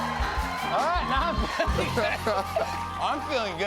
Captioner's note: laughs